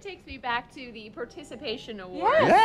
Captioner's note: laughs